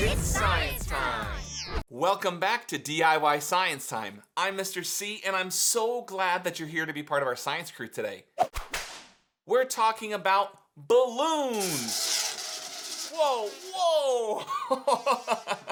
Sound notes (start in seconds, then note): 8.5 whip cracking; 11.6 balloon wheezing; 15.4 laughing